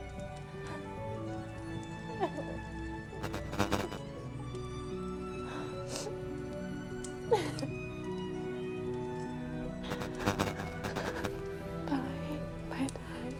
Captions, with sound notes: (Kira continues sobbing) (gentle solemn music) (static buzzes) (Kira continues sobbing) (gentle solemn music) (static buzzes) Okay. Bye, Tyler.